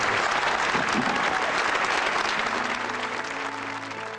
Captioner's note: applause